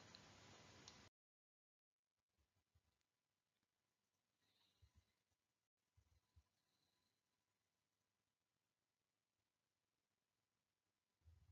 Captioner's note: silence